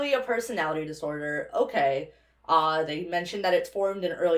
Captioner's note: none